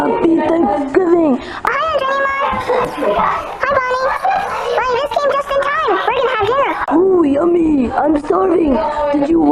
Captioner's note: kissing